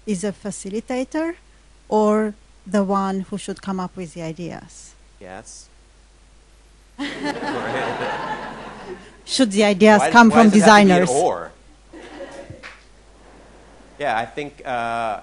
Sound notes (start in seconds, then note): 7.0 audience laughing